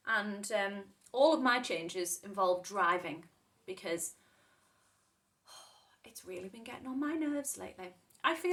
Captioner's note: exhales